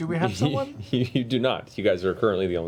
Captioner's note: laughs